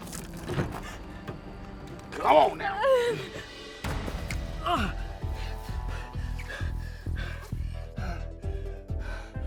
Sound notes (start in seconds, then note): 4.6 person grunting; 7.8 person breathing